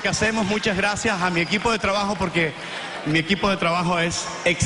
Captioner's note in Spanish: aplausos